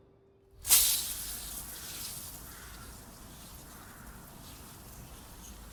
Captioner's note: sprinkler sputtering